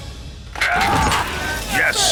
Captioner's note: screaming